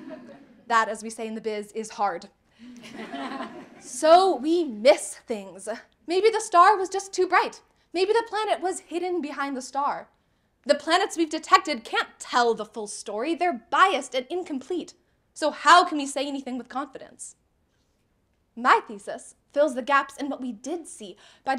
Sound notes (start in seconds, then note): 0.0 audience laughing; 2.6 audience laughing